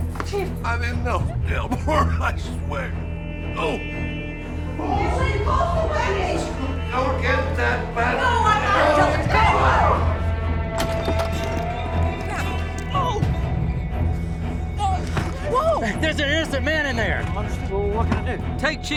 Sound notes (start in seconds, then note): 1.4 coughing; 10.9 people shouting; 12.6 Joe grunting